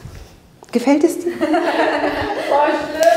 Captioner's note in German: Lachen